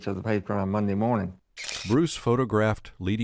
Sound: shutters clicking

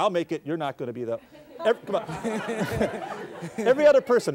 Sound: audience laughs

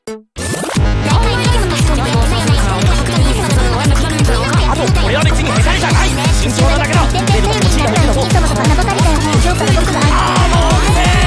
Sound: arguing Intensifies

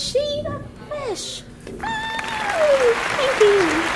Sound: audience applauds

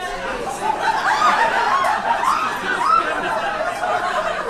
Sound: audience laughs

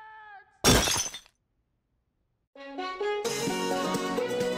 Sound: glass breaking

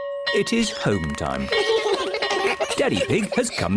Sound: all giggle

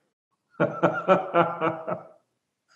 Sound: laughs

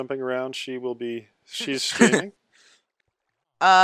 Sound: laughs

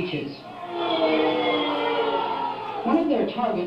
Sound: booing

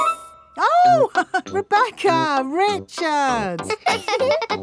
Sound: laughs; both laughing; chuckles

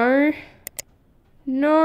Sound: click!

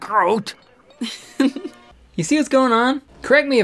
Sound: woman giggling

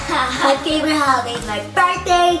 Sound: laughing

